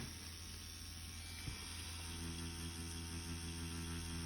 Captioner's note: machine whirring